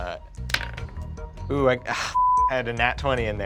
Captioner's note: rolls dice